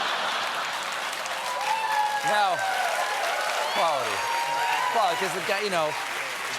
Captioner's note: laughter; cheers and applause